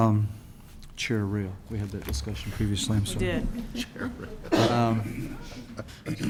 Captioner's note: laughter